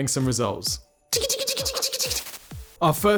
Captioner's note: chittering